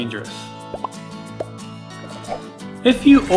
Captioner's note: logo pops